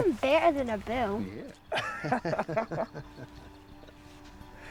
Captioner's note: laughing